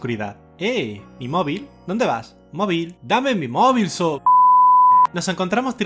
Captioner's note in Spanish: pitido